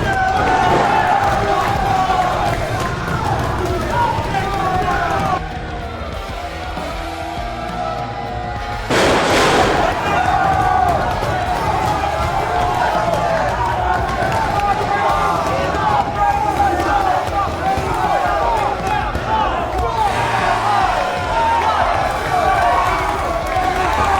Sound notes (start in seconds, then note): 5.5 the crowd yells in a crescendo knowing whats to come; 8.8 A thunderous crash echos thru the building; 12.8 Steve Pain yells in agony from the sting to his back